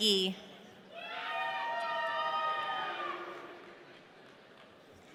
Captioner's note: audience cheering